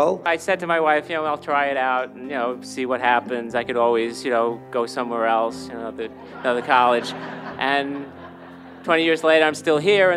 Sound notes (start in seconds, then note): 6.1 audience laughing